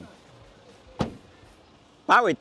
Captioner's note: door thuds